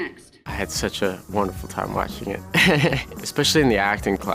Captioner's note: laughs